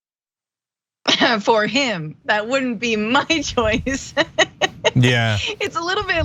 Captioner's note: laugh